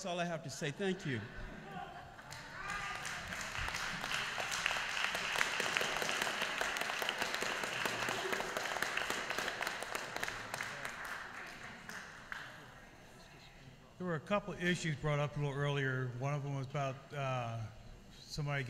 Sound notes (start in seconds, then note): 2.2 applause